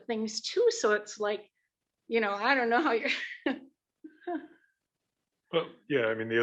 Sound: laughs

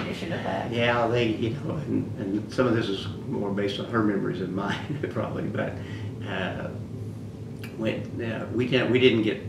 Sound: laughs

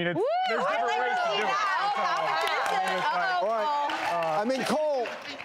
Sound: audience cheers and claps

